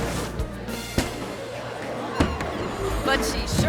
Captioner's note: plexiglass smacking